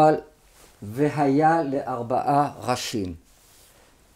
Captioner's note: speaks Hebrew